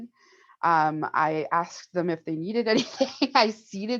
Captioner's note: chuckles